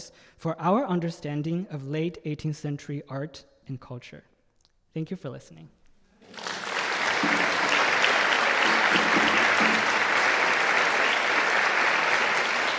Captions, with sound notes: for our understanding of late 18th-century art and culture. Thank you for listening. (audience applauding)